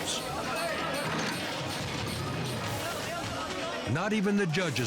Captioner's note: box crashing